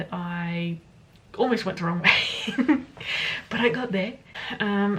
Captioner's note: laughs